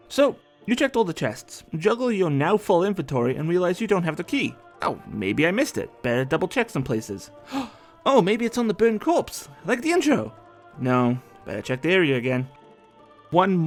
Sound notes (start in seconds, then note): 7.4 gasp